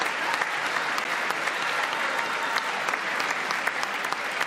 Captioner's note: applause